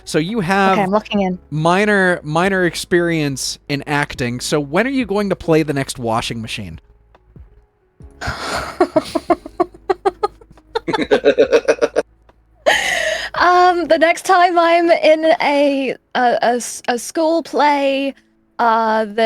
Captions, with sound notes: So you have minor, minor experience in acting. So when are you going to play the next washing machine? (laughing) The next time I'm in a school play